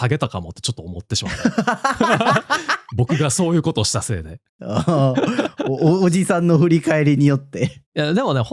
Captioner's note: laughs